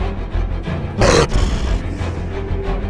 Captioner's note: growling Sound